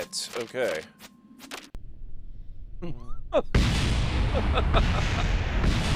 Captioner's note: laughs